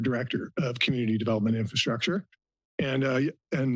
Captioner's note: clears throat